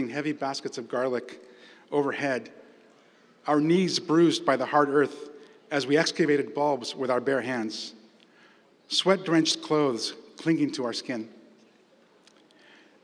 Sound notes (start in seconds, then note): none